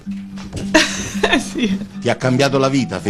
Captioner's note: giggles